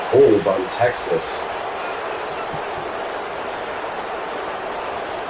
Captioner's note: crowd Noises